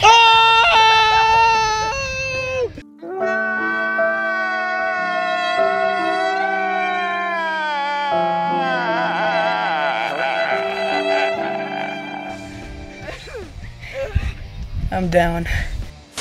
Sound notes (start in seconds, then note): 0.6 screaming; 2.9 sad music and crying